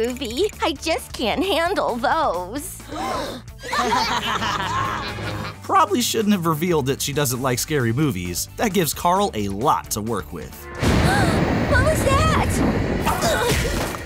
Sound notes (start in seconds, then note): 2.8 gasping; 3.6 laughing; 10.4 gasping